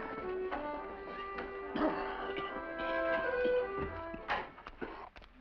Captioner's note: coughing